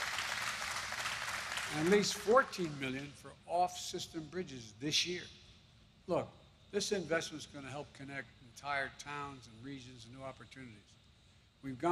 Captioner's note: applause